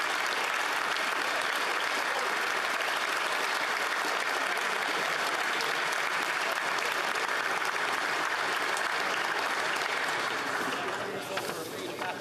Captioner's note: applause